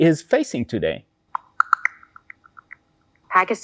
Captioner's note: computer audible beep